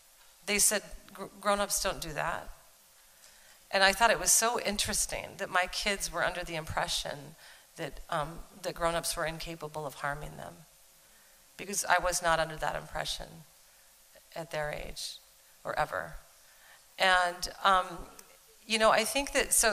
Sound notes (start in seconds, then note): none